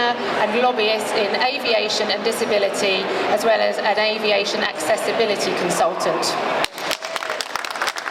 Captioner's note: applause